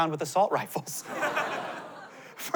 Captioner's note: laughter